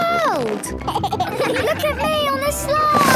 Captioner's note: giggles